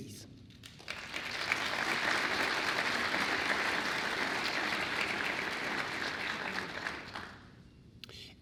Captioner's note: applause